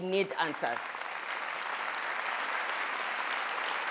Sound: applause

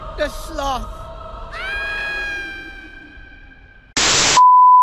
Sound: screaming

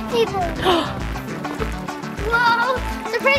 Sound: gasps

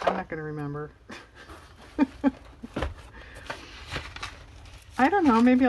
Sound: laughs

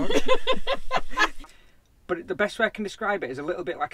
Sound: laughing

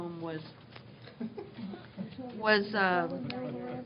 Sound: laughter

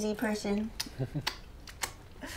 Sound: chuckles

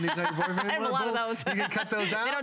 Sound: laughter

